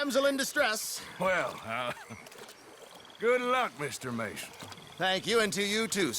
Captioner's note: laughs